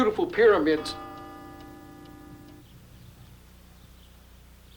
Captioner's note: bell tolls